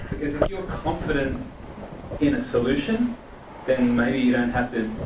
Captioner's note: voiceover